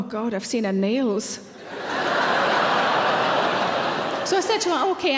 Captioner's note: audience laughing